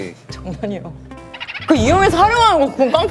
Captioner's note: laughs